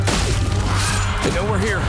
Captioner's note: vampires screeching